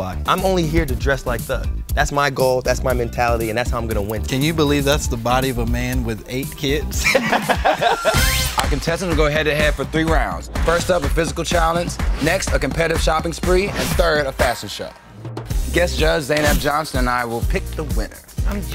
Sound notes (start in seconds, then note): 6.9 laugh